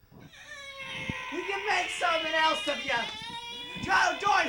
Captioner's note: crying